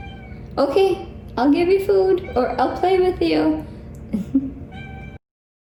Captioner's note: chuckles